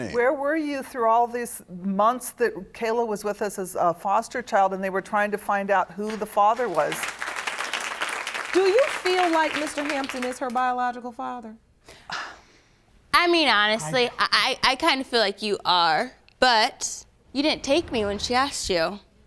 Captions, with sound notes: Where were you through all these months that Kayla was with us as a foster child and they were trying to find out who the father was? Do you feel like Mr. Hampton is her biological father? (SIGHING) I mean, honestly, I kind of feel like you are, but, you didn't take me when she asked you.